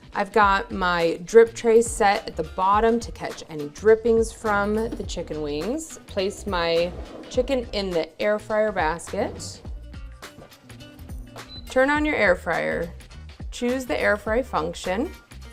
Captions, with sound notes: I've got my drip tray set at the bottom to catch any drippings from the chicken wings. Place my chicken in the air fryer basket. (light music) Turn on your air fryer. (air fryer beeping) Choose the air fryer function.